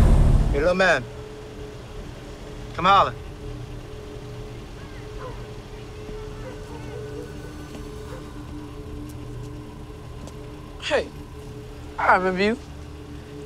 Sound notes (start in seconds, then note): 0.0 air whooshes; 4.8 dog barking and people chattering; 6.7 tense music